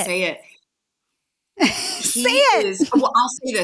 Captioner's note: laughing